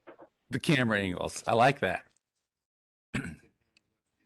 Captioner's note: clears throat